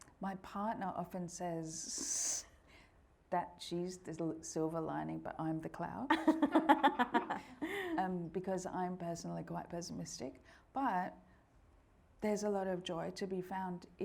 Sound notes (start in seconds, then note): 6.1 all laughing